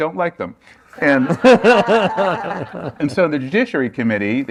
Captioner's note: laughter